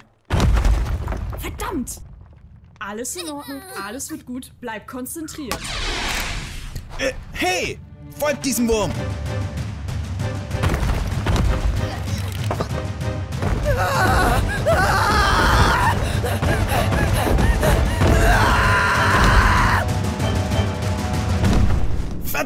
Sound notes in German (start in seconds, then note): 8.9 Angestrengte Geräusche; 15.9 Schwerer Atem